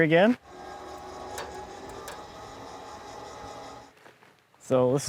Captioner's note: winch whines